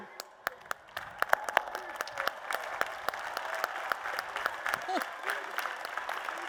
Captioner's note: applause and Cheers